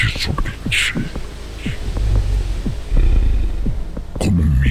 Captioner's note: growling